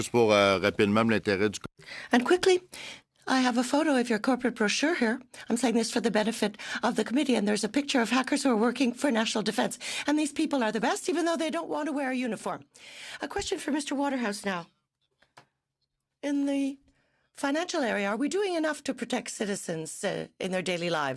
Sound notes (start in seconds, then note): 3.4 speaking French